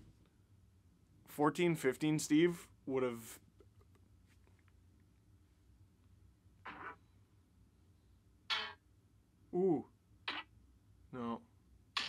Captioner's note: various bonk noises